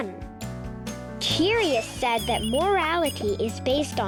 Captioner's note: curious whistling